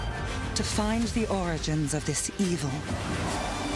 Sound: roaring

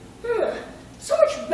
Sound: shudder

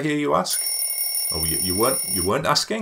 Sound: alarm ringing

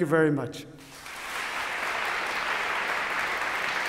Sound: applause

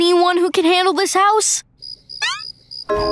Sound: chirping

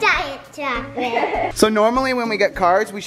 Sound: laughs

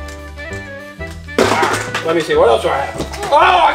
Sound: tool clatters

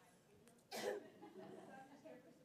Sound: laugh

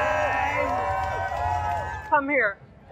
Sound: crowd cheering

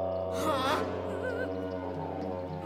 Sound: whimpering

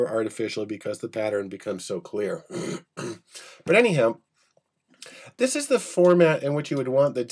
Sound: clears throat

